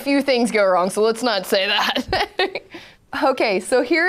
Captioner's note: laughs